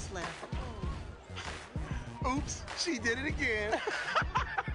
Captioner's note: sighs; both laugh